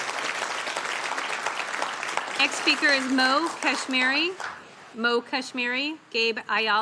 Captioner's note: applause